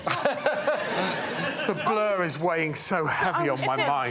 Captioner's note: laughter